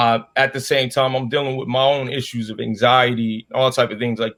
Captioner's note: none